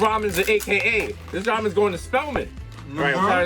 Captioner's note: pops